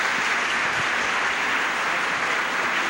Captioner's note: applause